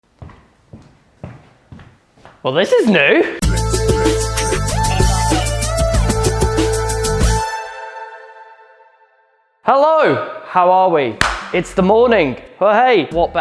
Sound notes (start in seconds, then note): 11.2 claps in vegan